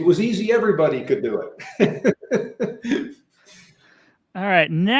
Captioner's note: laughing